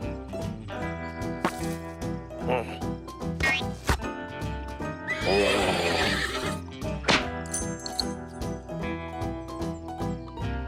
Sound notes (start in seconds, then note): 5.0 angry neighing; 6.3 reins snap; 7.4 spurs jingle